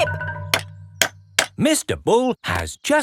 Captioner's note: clanking